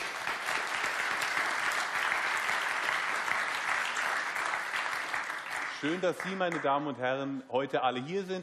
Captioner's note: applause